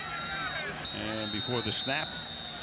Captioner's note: whistle